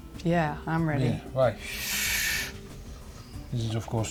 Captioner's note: breathes deeply